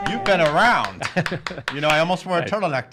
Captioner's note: laughing